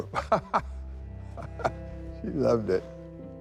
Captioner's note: laughs